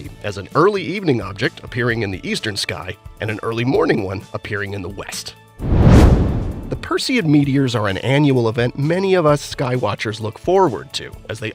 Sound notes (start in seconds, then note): 5.6 meteor whooshes